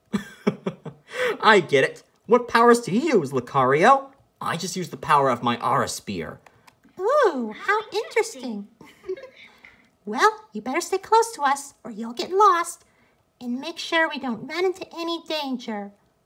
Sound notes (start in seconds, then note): 0.0 chuckles; 8.8 giggles